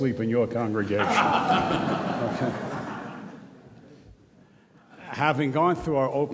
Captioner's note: audience laughs